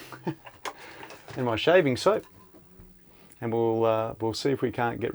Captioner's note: laughs